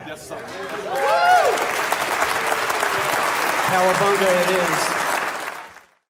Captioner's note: audience cheering and applause